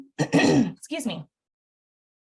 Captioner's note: clears throat